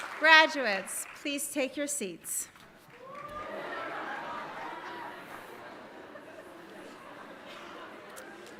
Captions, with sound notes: Graduates, please take your seats. (audience laughing)